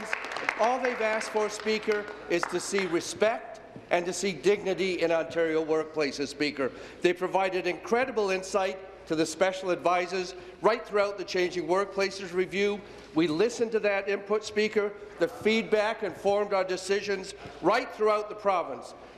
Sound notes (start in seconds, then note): 1.5 applause